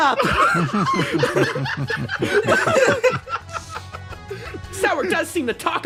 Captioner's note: laughs